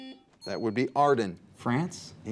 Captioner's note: buzzer beeps